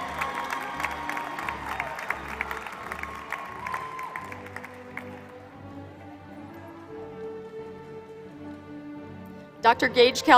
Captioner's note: applause